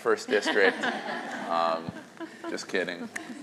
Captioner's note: laughter